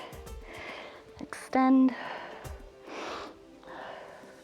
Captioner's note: exhales